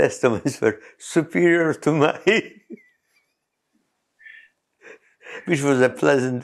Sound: laughs

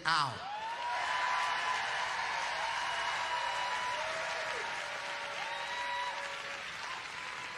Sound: congregation applauding

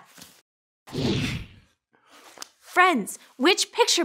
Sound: whooshing

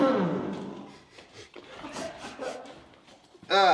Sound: sniffing, coughing

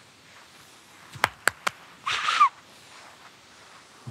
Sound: claps, whistles

